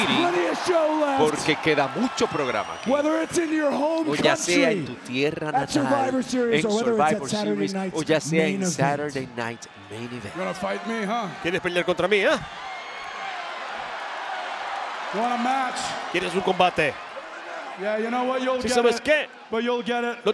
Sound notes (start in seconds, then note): 12.6 applause